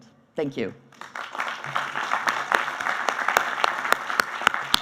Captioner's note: applauding